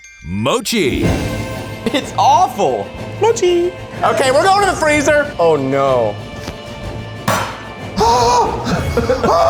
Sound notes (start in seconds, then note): 0.7 dramatic music; 7.2 mallet banging; 7.3 dramatic music continues